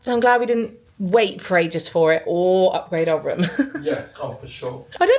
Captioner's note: laughing